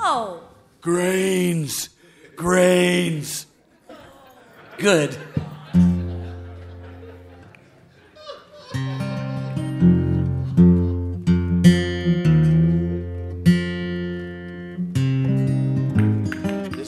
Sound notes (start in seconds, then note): 3.4 audience laughing; 8.6 playing guitar